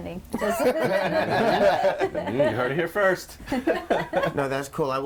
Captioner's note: overlapping laughter and chatter